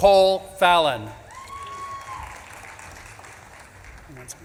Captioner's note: audience claps and cheers